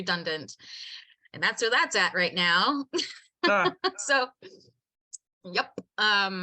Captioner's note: laughs